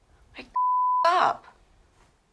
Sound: beep

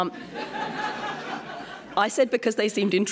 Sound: laughter

